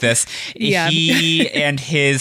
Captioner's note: laughs